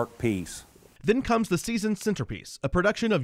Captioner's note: voiceover